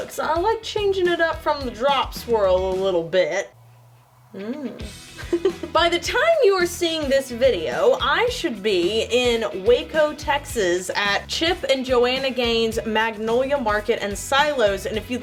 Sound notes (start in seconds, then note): 4.3 laughs